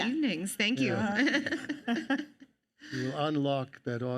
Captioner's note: laughs